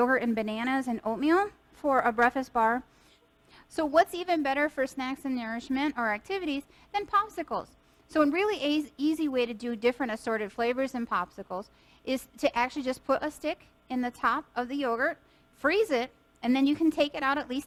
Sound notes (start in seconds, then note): none